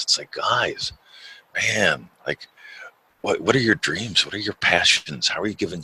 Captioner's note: none